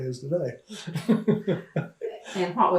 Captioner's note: laughs